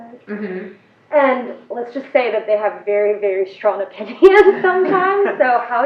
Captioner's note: laugh